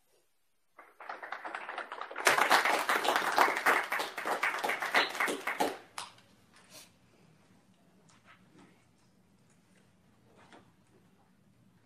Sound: applause

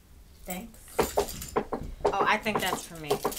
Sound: knocking

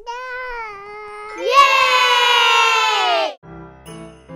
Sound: babbles; family cheering; soft piano music

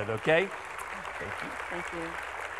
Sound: audience clapping

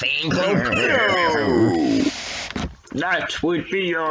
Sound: laughsing

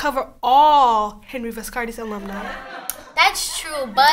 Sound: audience laughter

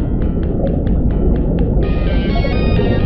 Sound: telephone rings

